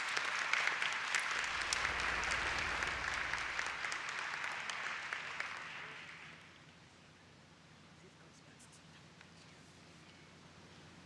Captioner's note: applause